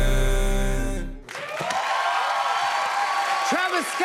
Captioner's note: cheers and applause